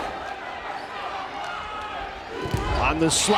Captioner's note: crowd cheering